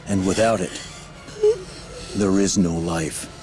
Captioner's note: gasping